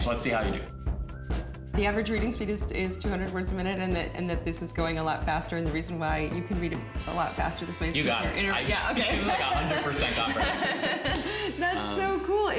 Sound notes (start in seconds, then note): 8.6 laugh